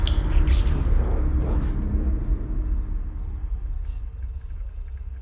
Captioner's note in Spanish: gritos de grillos